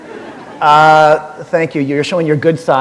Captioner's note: laughter